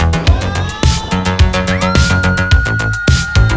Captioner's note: screaming